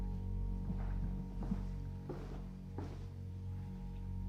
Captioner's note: footsteps tapping